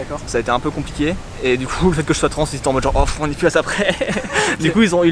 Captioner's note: laughs